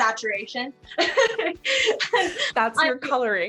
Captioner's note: laughs